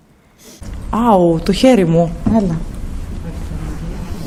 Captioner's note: E.V.P. sound